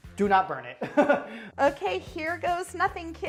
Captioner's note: laughing